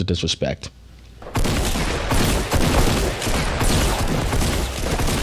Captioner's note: shotgun firing